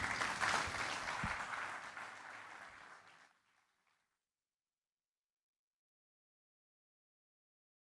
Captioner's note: applause